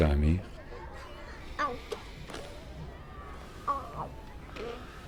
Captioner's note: baby making noises